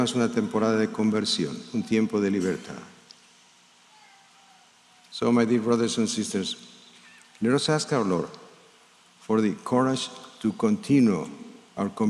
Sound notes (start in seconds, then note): 1.2 speaking in spanish